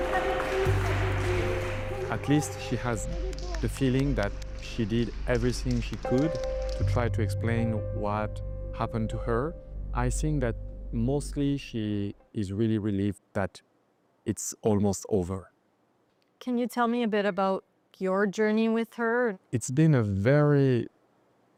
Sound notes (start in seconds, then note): 1.8 applause